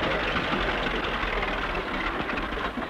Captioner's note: car noise